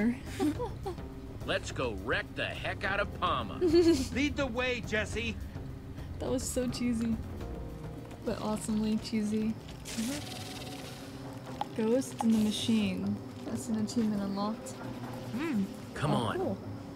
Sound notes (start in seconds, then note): 0.3 Sabrina giggles; 3.6 Sabrina laughs